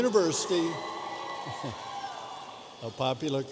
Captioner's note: audience cheering